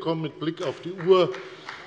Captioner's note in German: Beifall bei der FDP